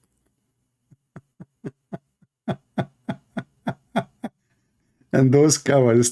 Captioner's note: Ketawa